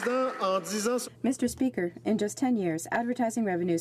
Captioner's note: some Applause